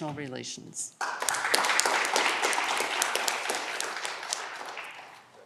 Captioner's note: audience clapping